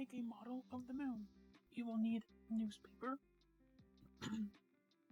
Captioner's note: clears throat